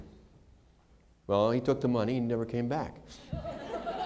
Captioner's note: laughter